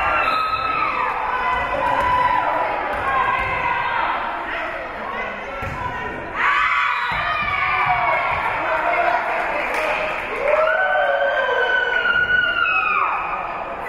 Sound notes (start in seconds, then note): 0.1 whistle being blown; 6.4 spectators cheering; 6.5 whistle being blown; 10.6 spectators cheering